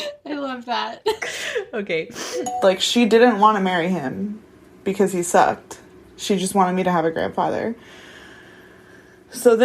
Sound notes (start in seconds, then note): 2.4 bingbong